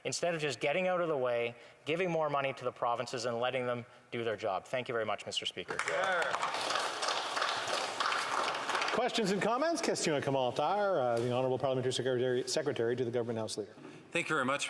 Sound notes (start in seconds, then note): 9.7 applause